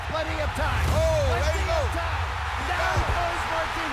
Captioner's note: cheering